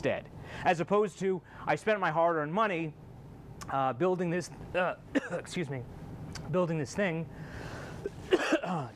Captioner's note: coughing